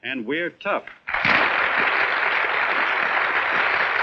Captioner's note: applauding